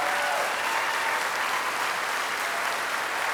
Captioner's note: cheers and applause